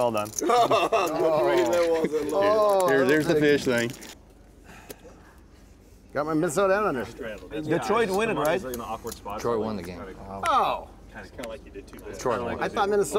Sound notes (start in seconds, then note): 0.4 laughing